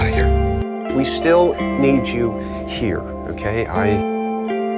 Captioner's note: voiceover